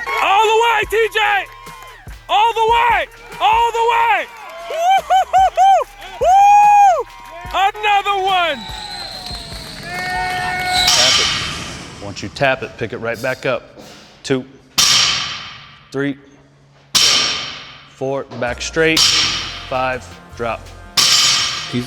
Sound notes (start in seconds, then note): 0.0 people cheer; 4.6 woos; 10.7 bat thuds